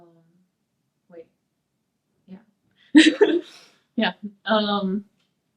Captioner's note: laughs